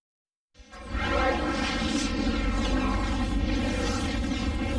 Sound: dramatic twister and helicopter sounds

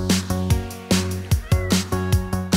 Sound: smol meow

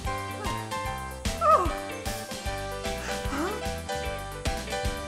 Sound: queen muttering

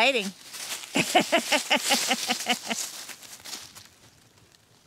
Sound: laughing

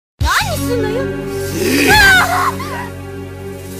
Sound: growl

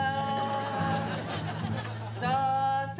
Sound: audience laughing

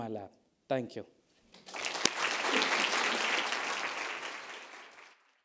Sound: audience applauding

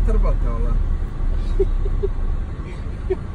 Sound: laughs

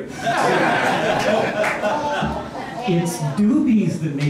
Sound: laughter

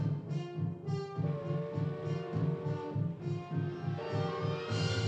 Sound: whistle blowing

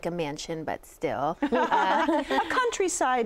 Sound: laughter

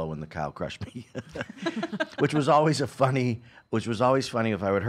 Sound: laughing

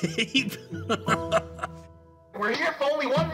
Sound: laughs

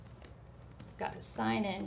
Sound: keyboard clacking

